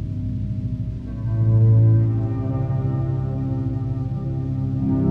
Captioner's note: none